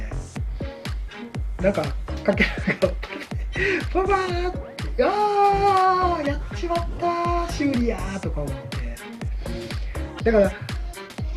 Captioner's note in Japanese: 笑い